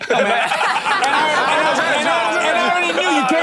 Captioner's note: hosts laughing